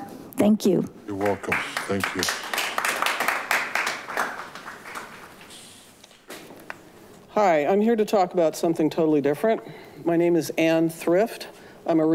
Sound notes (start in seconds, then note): 3.6 attendees applaud